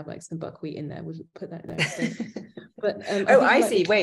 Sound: laughing

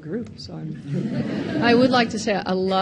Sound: audience laughing

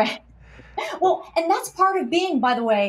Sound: chuckles

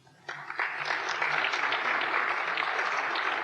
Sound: applause

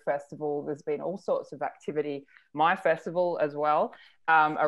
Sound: none

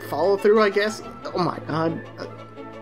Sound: stammers

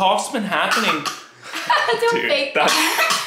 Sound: coughing

